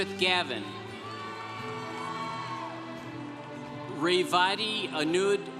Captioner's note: congregation cheering